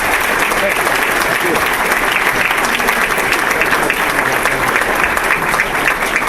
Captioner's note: applause